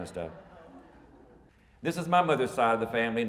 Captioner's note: audience mumbles